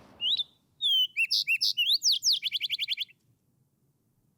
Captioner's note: bird singing